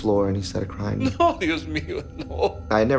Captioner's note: speaking Spanish